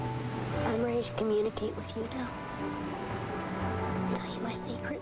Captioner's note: Cole Sear voice over